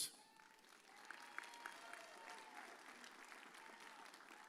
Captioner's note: audience cheers